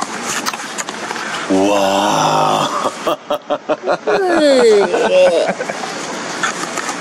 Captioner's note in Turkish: Kahkaha sesleri